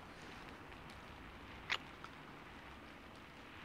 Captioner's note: kiss